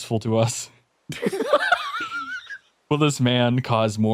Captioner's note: laughs